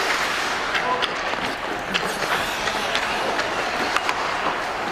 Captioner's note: hockey puck clanking